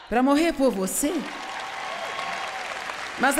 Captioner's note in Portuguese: plateia aplaudindo